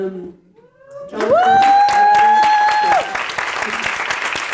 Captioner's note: audience cheering; audience applauding